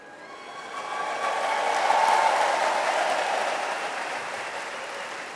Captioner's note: audience applauds